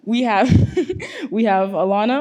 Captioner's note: laughs